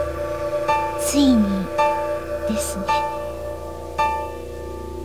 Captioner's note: rain